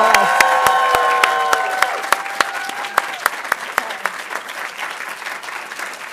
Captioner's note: audience cheering and applauding